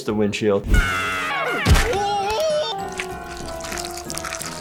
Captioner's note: animals screaming